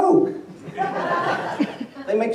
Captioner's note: laughter